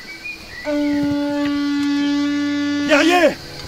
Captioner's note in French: bruit de corne